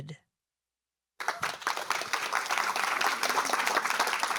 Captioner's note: applause